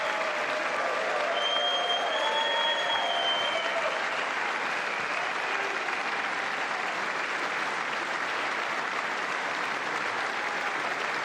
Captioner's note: applause